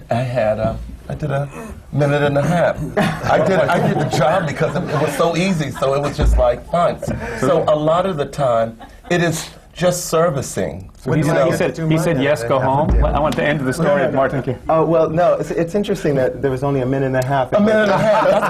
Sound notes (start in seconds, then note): 2.8 laughter